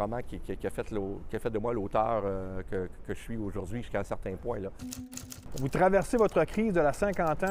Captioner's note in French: cliquetis de la machine